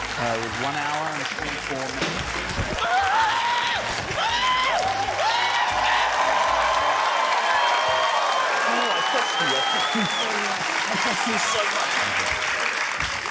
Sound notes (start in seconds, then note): 2.7 exclaims, shouts; 5.9 cheering, applause